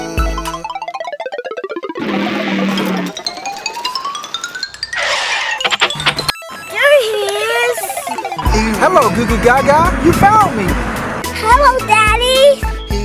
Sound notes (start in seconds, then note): 0.7 cartoony blooping; 2.0 car motor revving; 2.0 alternating piano keys; 5.2 tires screeching